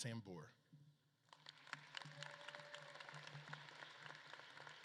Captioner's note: audience claps